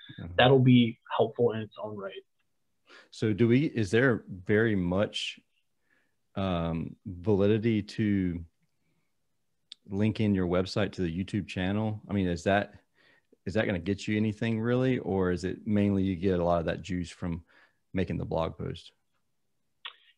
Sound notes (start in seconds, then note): none